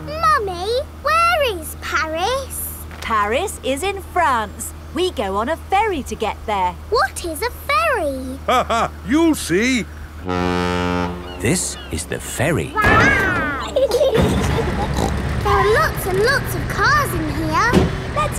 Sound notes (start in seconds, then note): 8.2 laughing; 10.2 ferry horn blows; 12.8 giggling; 14.3 snorts